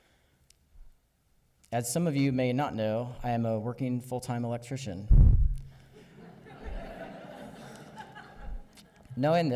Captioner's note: audience chuckles